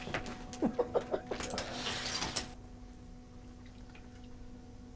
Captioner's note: laughing